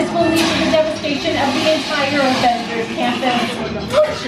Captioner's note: mutters